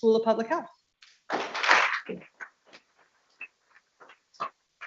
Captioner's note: people clapping